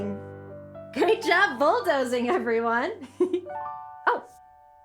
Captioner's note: giggle